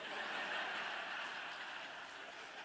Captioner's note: laughter